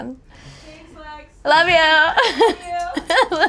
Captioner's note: laughing